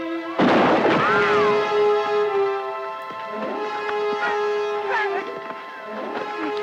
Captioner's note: bullet ricochets; gun fires